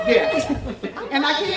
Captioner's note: chatter